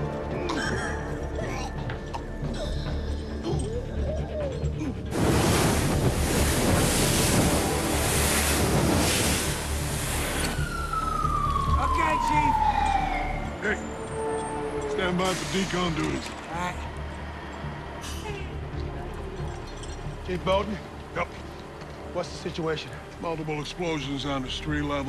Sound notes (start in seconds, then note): 0.1 wheezing; 11.3 sirens wailing